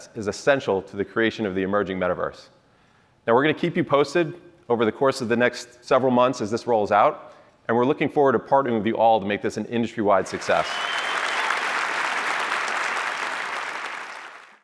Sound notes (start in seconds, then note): 10.2 applause